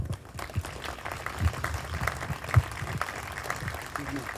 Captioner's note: group applauding